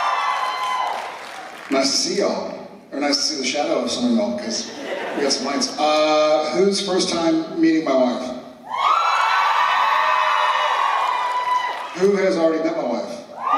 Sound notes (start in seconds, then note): 8.6 cheers